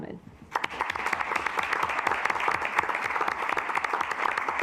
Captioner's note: assembly clapping